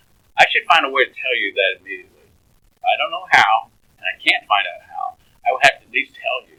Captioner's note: laughs